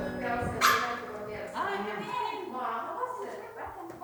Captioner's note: people chattering